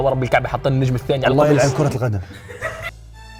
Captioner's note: laughing; dramatic music plays